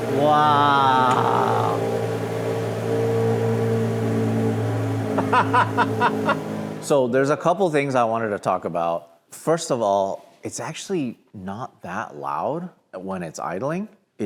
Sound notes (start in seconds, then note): 5.1 laughs